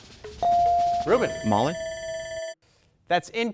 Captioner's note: bell dings; buzzer beeps